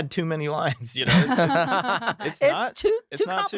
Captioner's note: laughing